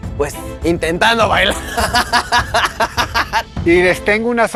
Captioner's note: demon mother laugh